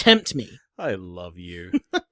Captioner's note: laughing